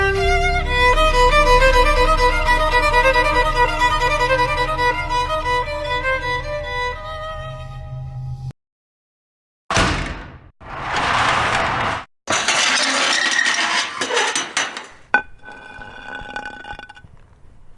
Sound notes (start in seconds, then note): 0.0 ominous Music; 9.7 metal Door Closing; 15.2 metal bat dragging on ground